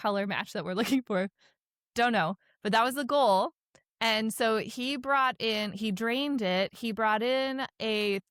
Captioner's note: chuckles